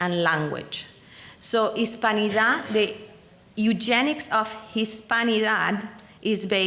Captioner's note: speaking in foreign language